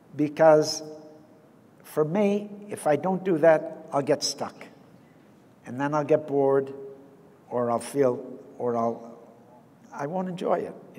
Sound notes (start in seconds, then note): none